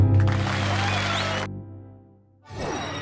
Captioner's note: cheers and applause